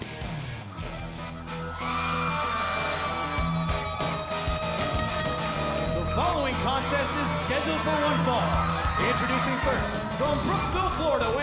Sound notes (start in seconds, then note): 4.5 bell ringing; 4.6 crowd cheering